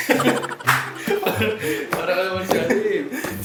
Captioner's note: laughs